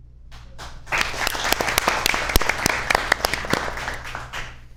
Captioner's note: audience applauds